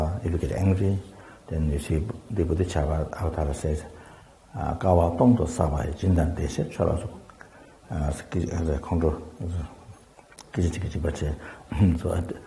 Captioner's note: tibetan